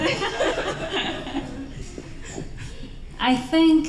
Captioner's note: laughter